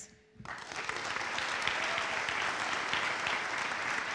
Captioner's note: audience applauds